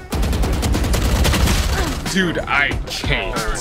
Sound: guns firing

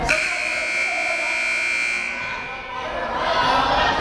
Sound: timer buzzes

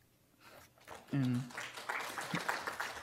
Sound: clapping

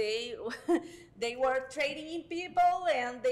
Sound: laughs

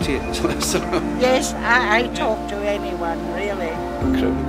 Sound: laughter

